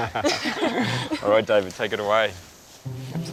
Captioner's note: all laugh